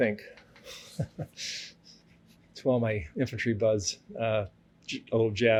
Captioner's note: laughs